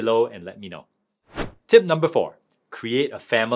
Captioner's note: transition whooshing